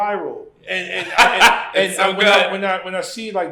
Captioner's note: laughs